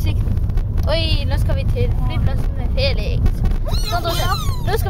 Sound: sarcastic

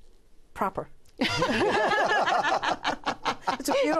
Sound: laughter

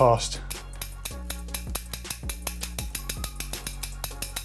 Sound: chain clicks

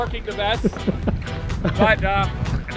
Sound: laughing

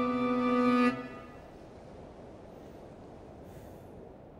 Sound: wind howling

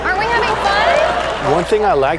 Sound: audience applauding and laughing

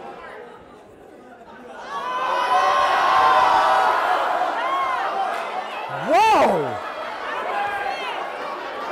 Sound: audience reacts

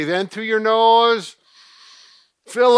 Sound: inhaling

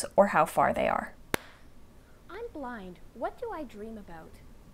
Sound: hand clap. faint dialog

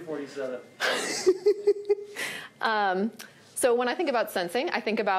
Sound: laughs

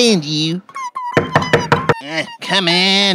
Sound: door knocks

